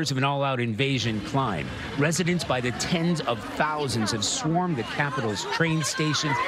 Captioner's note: yelling